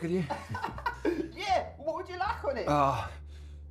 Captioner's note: Tariq laughing